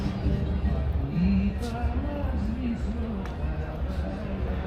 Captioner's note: people chattering